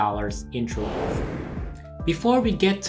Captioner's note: whooshing